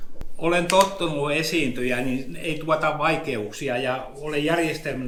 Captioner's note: speaks in Finnish language